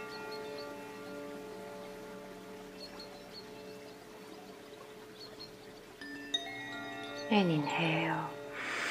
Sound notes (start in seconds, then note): 0.0 bells lightly chiming; 0.0 water babbling